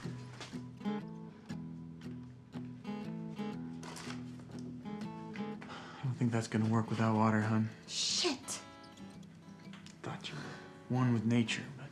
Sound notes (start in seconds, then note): 0.0 soft gentle upbeat music; 5.9 sighs